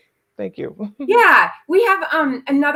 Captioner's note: chuckling